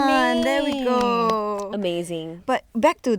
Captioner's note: girls clapping